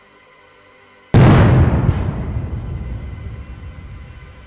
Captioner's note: cannons fire